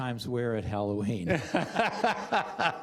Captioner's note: laughter